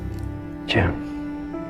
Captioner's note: voiceover